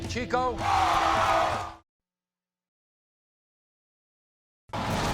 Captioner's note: audience vocalizing